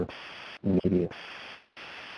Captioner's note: static